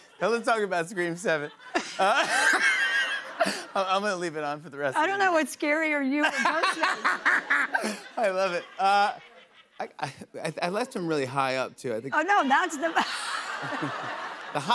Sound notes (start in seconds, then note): 1.9 laughter